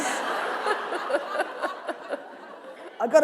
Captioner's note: laughter